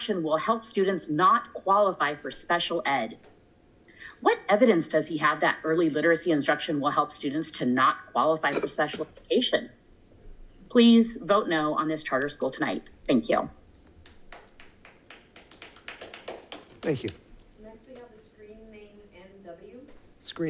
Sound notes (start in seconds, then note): 14.0 audience applauding